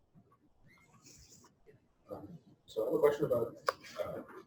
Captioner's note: pause